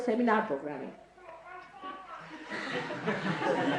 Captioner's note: laugh